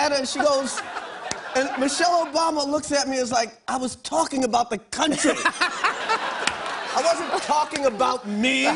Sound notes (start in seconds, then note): 5.1 laughter